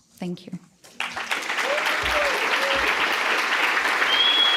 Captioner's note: applause